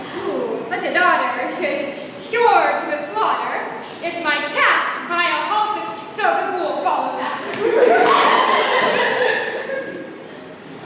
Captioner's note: laughter